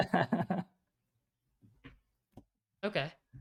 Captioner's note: laughs